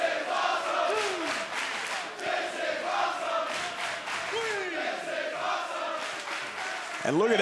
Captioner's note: fans chanting